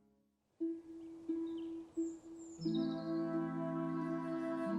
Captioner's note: birds chirping